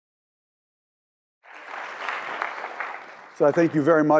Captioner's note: applause